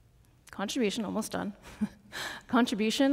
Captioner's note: chuckles